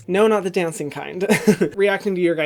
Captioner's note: laughs